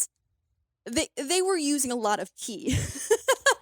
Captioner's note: laughs